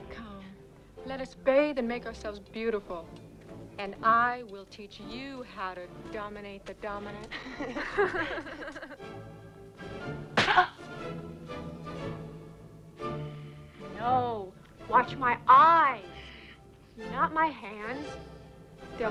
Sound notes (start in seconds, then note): 0.0 determined music; 7.2 both laugh; 10.3 slaps face; 10.6 Tracima grunts